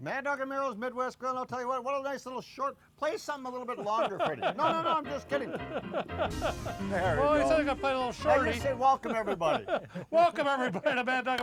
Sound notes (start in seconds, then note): 3.7 laughter; 7.3 piano music